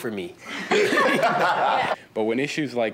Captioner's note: audience laughing